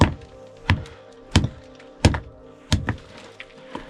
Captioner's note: hammer thudding